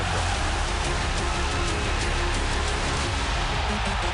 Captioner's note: crowd cheering